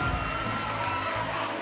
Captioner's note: cheers & applause